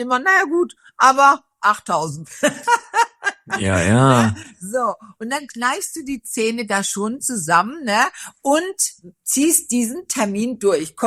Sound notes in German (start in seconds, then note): 2.2 gelächter